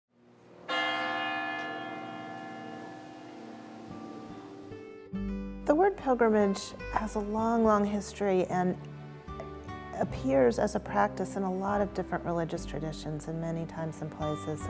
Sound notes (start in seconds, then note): 0.6 church bells tolling; 4.2 soft music